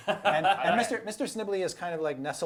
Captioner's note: laughing